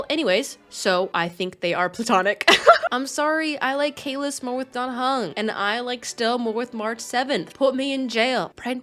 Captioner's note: laughs